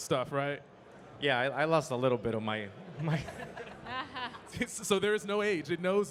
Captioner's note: chuckling